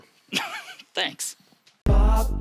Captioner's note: laughs